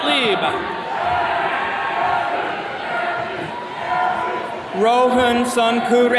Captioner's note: attendees cheering